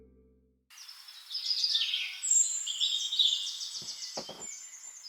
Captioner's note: birds singing